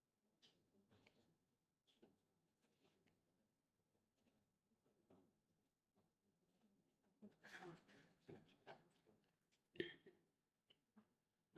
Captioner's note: silence